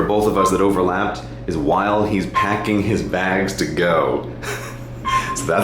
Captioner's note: laughs